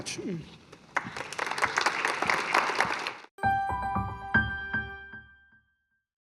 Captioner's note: applause